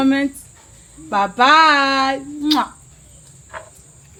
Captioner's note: kisses